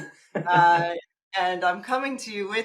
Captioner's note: chuckling